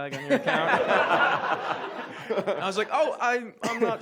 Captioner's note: audience laughs